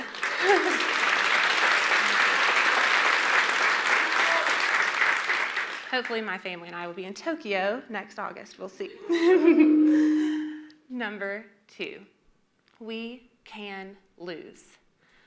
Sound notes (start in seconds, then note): 3.1 audience claps